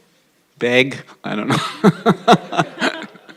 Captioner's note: laughter